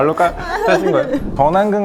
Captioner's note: Scratch